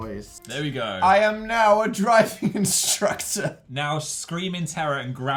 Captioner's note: laughs